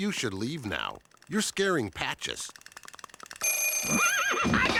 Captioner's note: telephone ringing